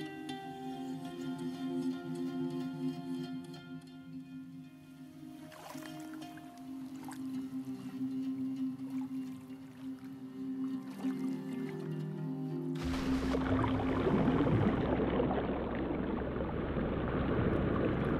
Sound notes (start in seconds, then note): 12.7 water gurgling